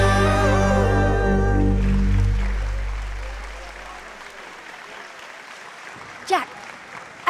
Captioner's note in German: applaus